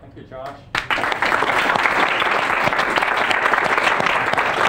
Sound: students applaud

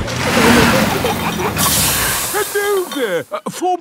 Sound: peppa and george giggling; air hisses

